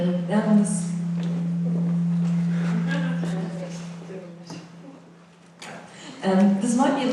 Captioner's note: voiceover; mic feedback